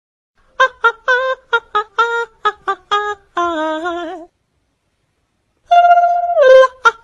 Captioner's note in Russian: прикольные звуки